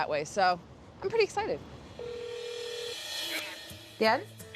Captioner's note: telephone rings